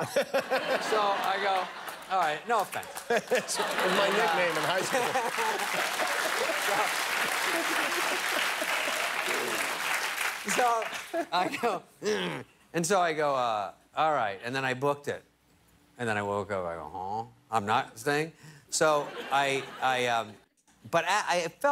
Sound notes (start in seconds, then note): 7.2 laughter; 8.8 applause